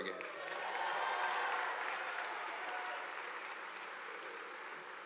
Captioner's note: audience applauding